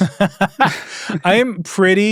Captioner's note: laughs